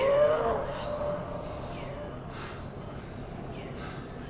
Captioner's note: Clint panting